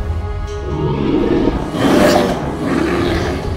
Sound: growling, roaring

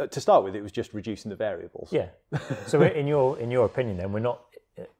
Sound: chuckles

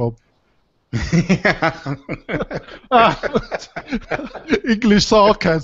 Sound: laughter

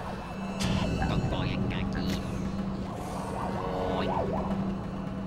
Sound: robo speak

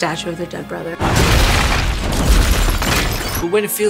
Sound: statue smashing

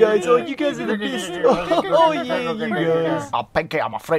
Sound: baby noises

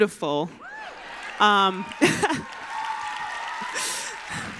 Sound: applause

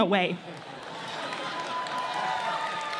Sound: laughter

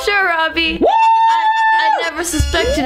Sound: exclaiming

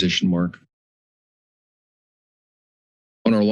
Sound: pause

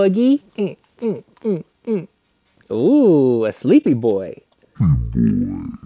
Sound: grunting

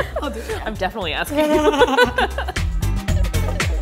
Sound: laughing; bouncy folk music

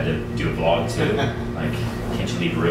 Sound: laughing

